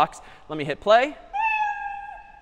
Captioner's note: meow